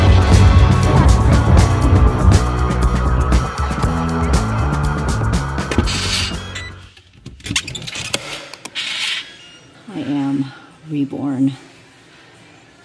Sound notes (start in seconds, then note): 5.8 keypad beeps